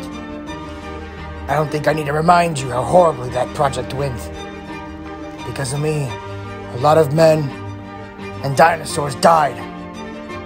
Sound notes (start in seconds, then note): none